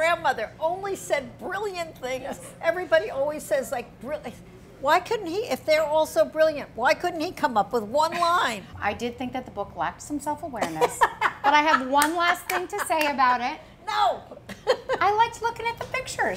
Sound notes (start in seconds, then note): 14.4 laughs